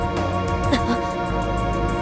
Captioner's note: gasp